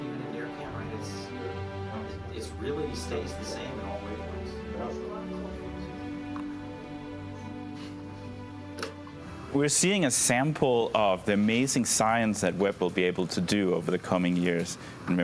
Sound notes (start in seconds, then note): 5.1 team members chattering